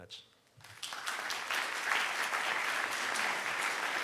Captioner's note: handclaps